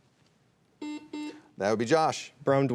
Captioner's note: buzzer buzzing